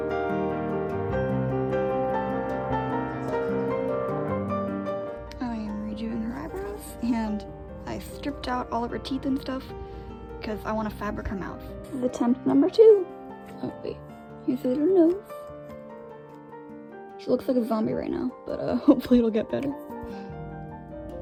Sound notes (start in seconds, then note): 19.9 laughs